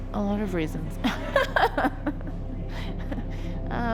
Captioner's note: laughs